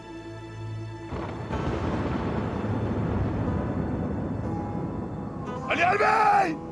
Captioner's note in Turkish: Gök gürültüsü efekti